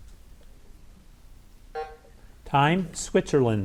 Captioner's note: bell buzzes